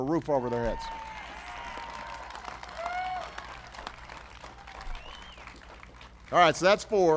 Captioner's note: applause